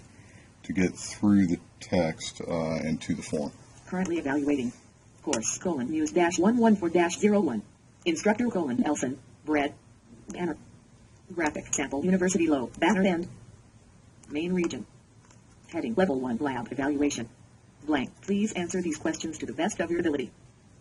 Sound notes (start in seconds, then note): 4.2 JAWS Screenreader reads text out loud synchronizing with arrow movements